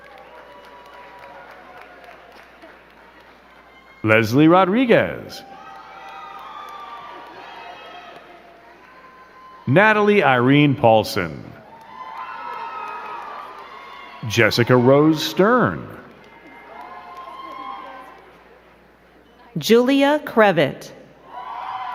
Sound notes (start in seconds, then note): 0.1 crowd cheering and clapping; 6.1 crowd cheering and clapping; 11.5 crowd cheering and clapping; 21.2 crowd cheering and clapping